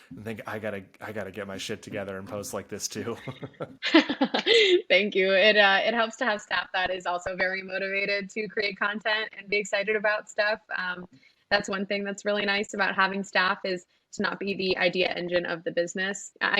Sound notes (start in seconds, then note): 1.3 laughs